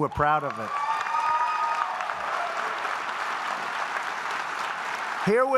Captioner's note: applause